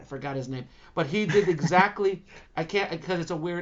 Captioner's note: laughing